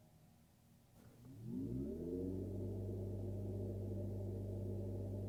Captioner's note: engine revving